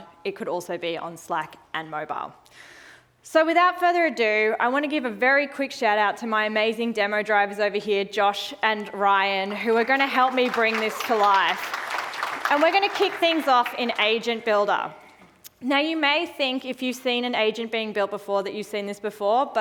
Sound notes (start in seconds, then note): 12.2 audience applauding